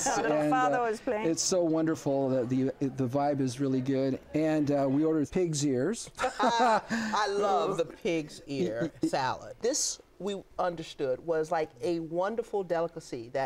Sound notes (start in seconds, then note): 6.2 laughter